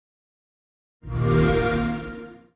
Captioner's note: xbox sound